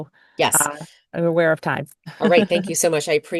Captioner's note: chuckles